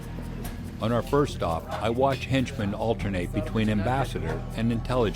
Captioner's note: voiceover